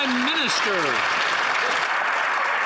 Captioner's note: some Applause